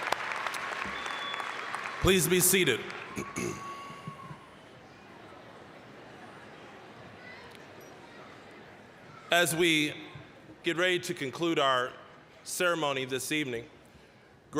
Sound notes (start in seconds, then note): 0.0 applause, cheering; 3.1 general chatter